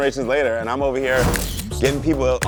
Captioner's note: camera clicking